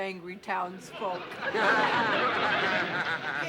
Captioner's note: laughter